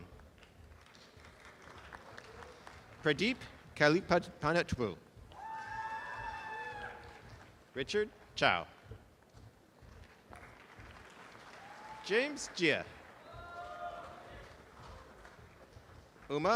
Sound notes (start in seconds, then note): 0.7 audience applause; 5.3 audience applause; 9.9 audience applause